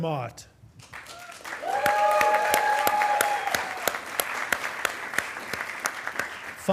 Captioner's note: attendees applauding and cheering